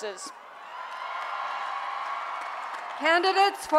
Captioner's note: cheering